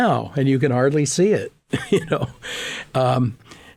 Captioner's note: laughing